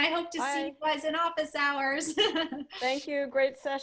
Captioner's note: laughter